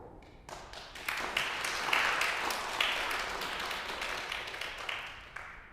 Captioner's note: congregation applauds